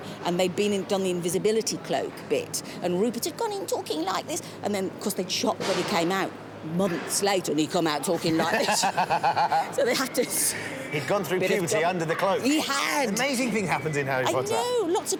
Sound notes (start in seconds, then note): 3.3 in young voice; 4.7 in normal voice; 7.5 in deep voice; 9.5 in normal voice